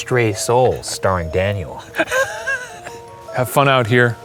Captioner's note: laughing